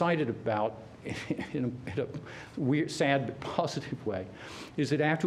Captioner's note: laughter